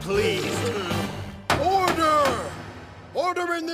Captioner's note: gavel slamming